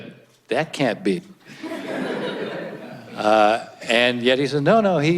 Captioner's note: audience laughs